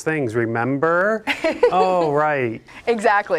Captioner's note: laughing